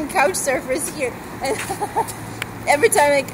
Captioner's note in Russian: смех